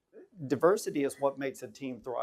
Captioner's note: none